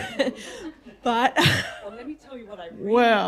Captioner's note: laughter